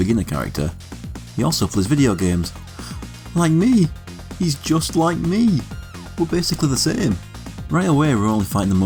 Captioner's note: gasp